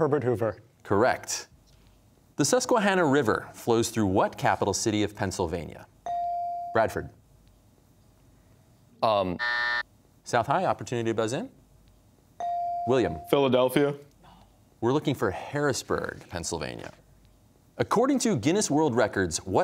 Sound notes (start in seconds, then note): 9.4 buzzer; 14.3 quietly